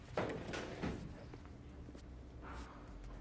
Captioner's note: door closing